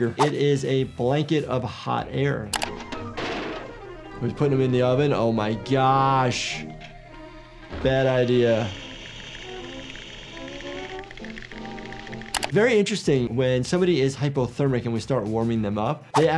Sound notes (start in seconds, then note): 2.7 oven clattering; 8.7 Tom's teeth chattering; 9.0 hissing